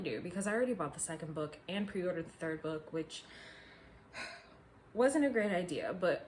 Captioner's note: sigh